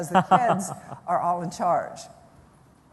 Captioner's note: laughter